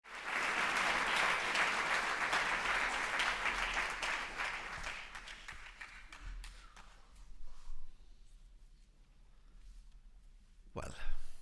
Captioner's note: applause